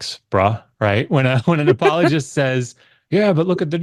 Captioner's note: laughs